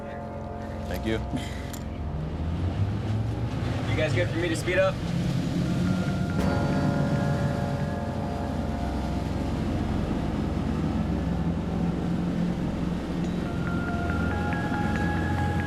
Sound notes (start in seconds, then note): 5.7 boat engine revving